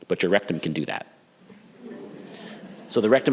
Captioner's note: audience laughs